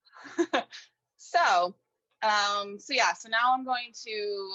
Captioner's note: laughing